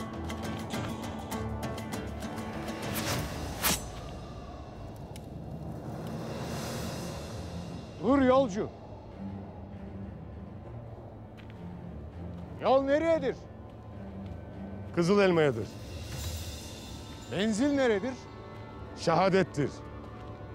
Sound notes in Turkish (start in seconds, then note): 2.6 Ok sesi; 4.3 Rüzgâr sesi